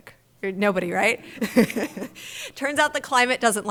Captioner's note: laughs